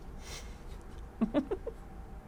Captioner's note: chuckles